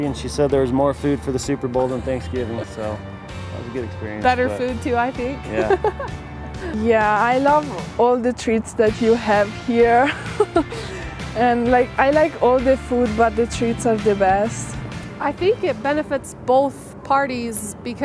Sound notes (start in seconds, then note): 5.5 laughs; 10.5 chuckles